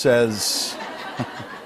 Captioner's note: laughter